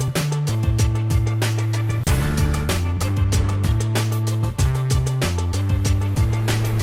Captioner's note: none